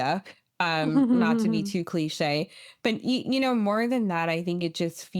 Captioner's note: chuckles